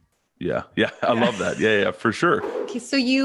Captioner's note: chuckles; air whooshing